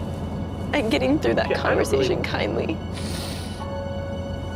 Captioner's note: sniffles